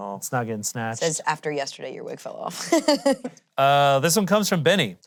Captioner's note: laughs